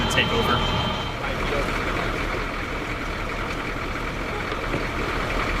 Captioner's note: vehicle engine idling